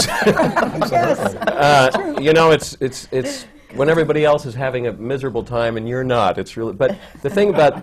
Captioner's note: laughter